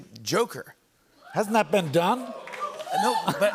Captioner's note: oohs